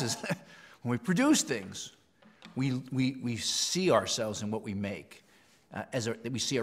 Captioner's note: laugh